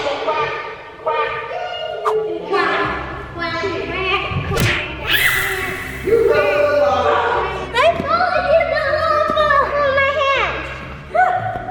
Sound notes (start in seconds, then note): 5.0 squeals